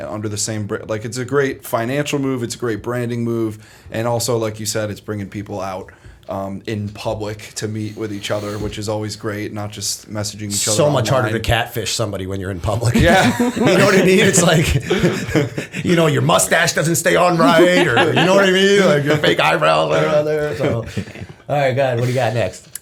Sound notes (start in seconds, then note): 12.9 laughter